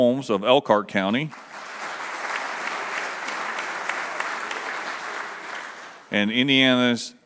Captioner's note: applause